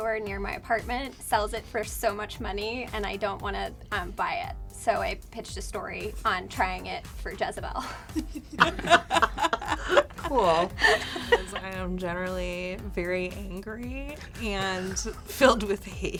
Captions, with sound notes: near my apartment sells it for so much money, and I don't want to buy it. So I pitched a story on trying it for Jezebel. (laughing) - Cool. - I'm generally very angry, and filled with hate.